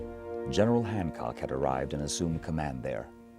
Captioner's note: voiceover